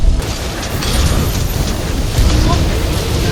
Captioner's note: spiiin~